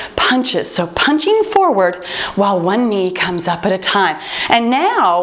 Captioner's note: timer beeps